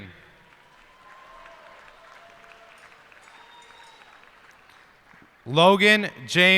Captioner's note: cheers and applause